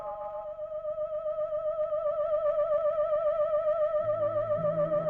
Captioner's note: high pitch ringing